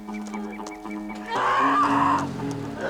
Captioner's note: Eddy screaming; engine turning over